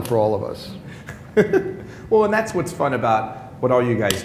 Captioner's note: laughter